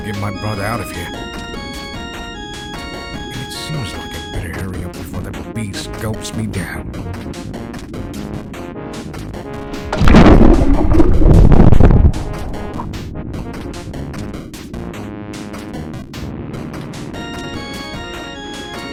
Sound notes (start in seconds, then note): 9.9 explosion